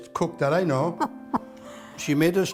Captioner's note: laughs